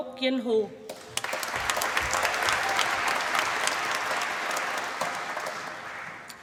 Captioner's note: applause